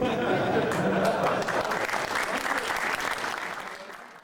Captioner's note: laughter; applause